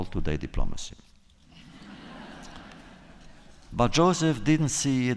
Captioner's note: laughter